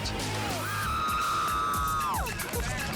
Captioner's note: crowd member screams